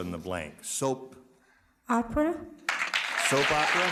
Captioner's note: cheers and applause